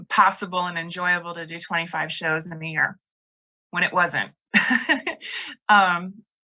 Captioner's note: laughs